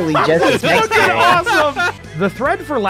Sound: laughter

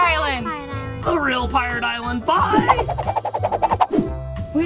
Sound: air whooshing; hat spinning

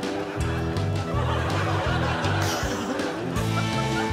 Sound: crowd laughs

